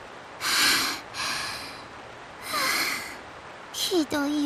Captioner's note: labored breathing; calming breathing